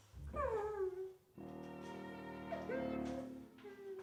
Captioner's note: woman whimpering